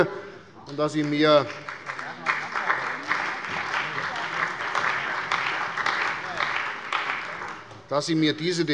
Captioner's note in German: Beifall bei der CDU und dem BÜNDNIS 90/DIE GRÜNEN